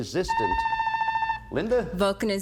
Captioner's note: buzzer sounds